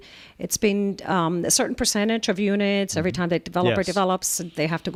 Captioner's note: Hablando ingl\s